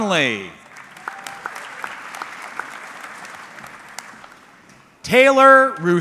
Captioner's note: audience clapping